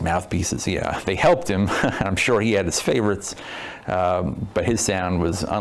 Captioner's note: chuckles